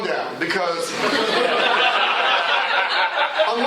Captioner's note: laughter